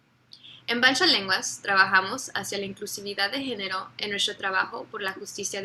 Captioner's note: speaks in foreign language